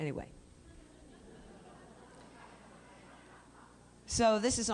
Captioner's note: laughter